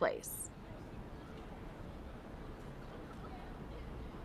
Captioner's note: background chatter